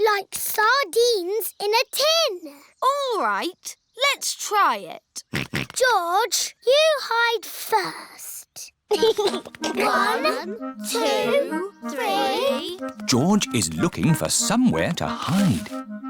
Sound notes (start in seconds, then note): 5.4 snorts; 8.9 chuckles